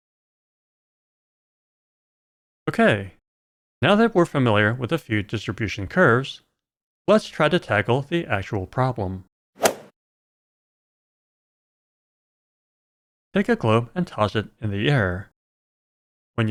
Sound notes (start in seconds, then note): 9.6 golf ball hit sound